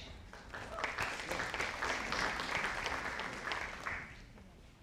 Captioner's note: audience applauding